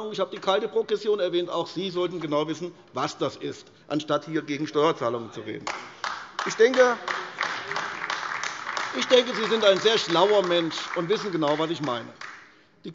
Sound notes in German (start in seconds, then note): 5.6 Beifall AfD